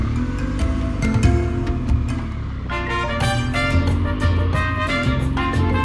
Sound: motorcycle engine roaring

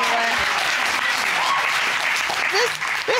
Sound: audience cheering, applauding

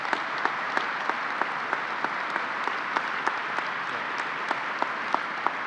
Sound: applause

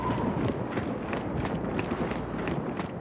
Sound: wind howling

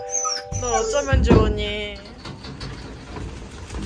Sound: laughing

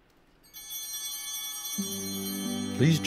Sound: bell ringing

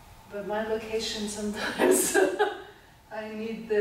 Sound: she laughs

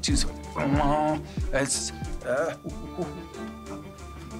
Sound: grunting

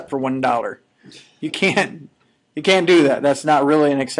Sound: chuckling

